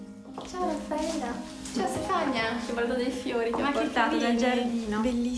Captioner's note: speaks in foreign language